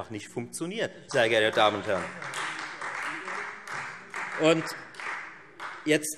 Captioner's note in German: Beifall Freie Demokraten